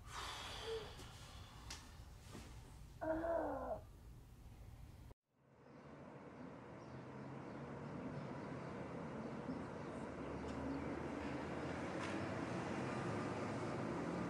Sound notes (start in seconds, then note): 0.3 man scoffing; 5.6 cars passing; 6.7 bird chirping